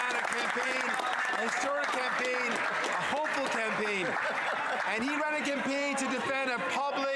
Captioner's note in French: applaudissements